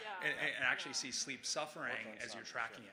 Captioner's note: people chattering distantly; chuckling